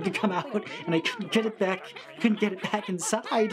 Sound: critters yelling and mumbling

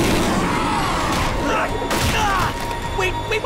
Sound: roars; fighting impacts and grunting

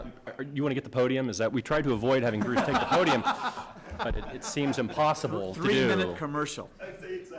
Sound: laughter

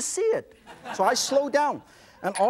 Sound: audience laughs

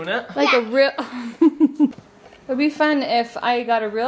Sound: laughing

